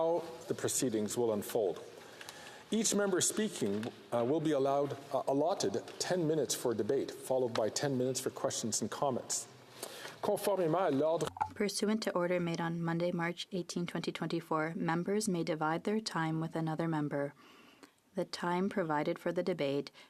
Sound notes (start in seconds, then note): 13.1 speaking French